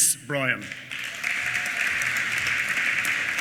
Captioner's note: applause